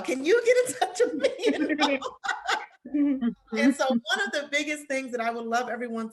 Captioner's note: laughter